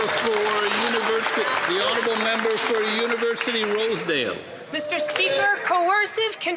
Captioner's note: some Applause